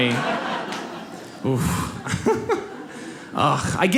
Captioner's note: laughs